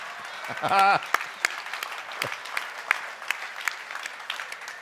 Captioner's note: laughter